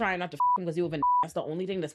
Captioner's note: beep